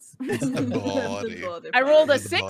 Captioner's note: they laughs